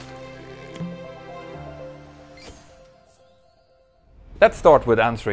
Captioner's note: playful chime